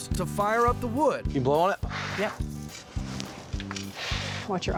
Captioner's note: blowing; blowing sound